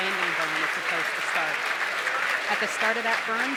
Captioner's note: cheers and applause